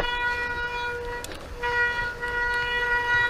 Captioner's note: brakes squealing